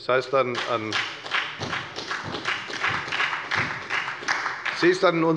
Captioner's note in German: Beifall bei der FDP und der SPD